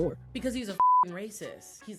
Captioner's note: beep